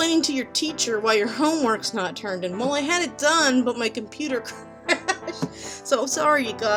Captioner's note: laughing